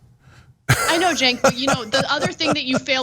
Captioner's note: laugh